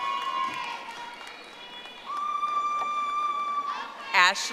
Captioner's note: audience applauding